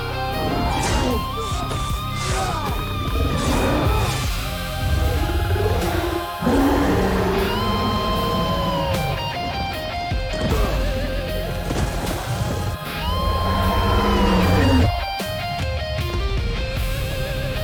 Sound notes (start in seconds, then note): 0.9 grunting; 10.2 emotional music; 13.8 dragon roaring